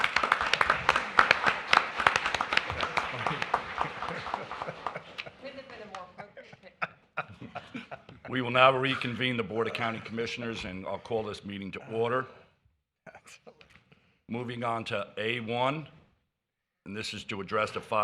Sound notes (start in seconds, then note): 2.2 applause